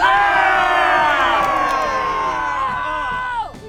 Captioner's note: cheers